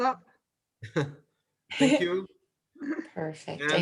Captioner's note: laughs